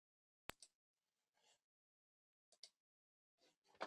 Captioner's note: mouse clicking